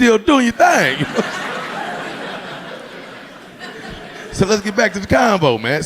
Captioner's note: audience laughing